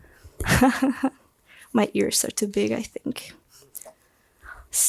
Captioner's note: laughs